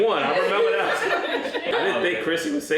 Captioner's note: laughing